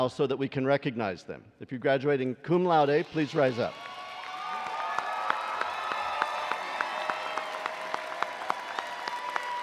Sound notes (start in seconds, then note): 3.0 attendees cheering and applauding